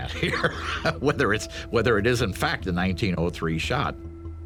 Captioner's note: chuckles